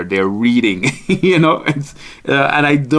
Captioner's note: laughing